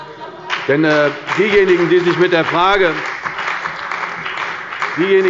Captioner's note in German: Beifall bei der CDU und dem BÜNDNIS 90/DIE GRÜNEN